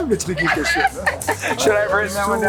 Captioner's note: laughs